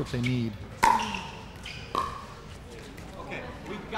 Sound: ball bouncing

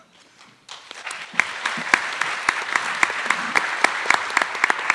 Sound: attendees applauding

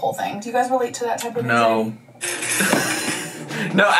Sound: laughing

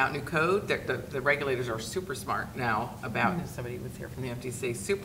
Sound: speaking faintly

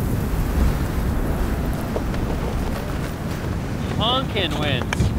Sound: wind whistling

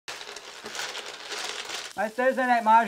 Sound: shuffling tiles

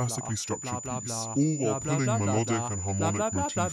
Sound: distorted voice speaking

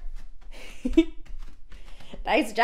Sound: giggles

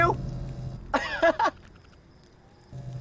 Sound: laughs

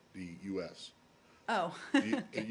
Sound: laughter

